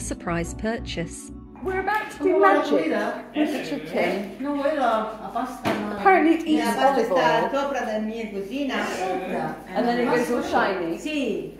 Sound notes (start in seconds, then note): 4.4 background chatter in Spanish; 8.0 background chatter in Spanish